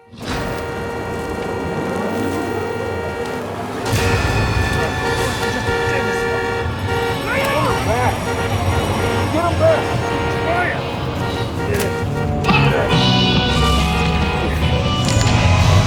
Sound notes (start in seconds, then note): 0.3 car horn honking continues; 4.8 intense music; 7.8 Tector shouts; 12.9 energetic music